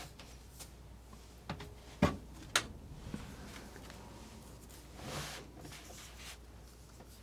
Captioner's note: scratching